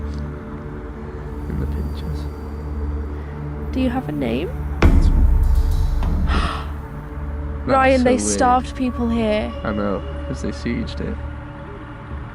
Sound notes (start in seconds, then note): 6.3 gasp